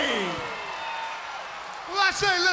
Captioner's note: crowd cheering